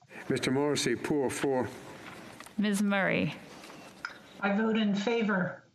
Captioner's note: speaking French